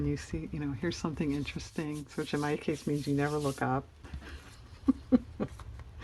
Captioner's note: laughs